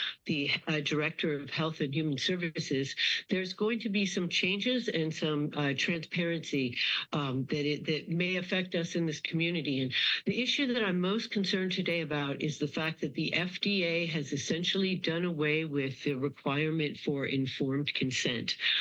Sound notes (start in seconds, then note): none